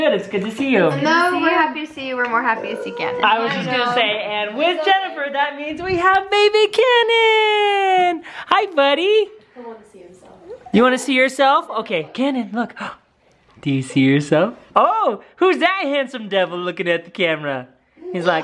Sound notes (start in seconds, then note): 9.6 voiceover